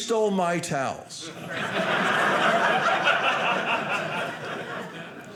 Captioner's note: audience laughing